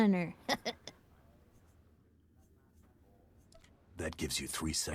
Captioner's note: laughs